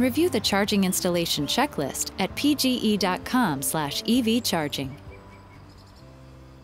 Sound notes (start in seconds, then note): 4.1 birds chirping; 5.0 soft music